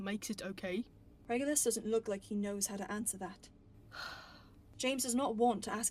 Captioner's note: James sighs